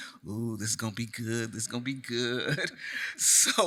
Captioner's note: chuckles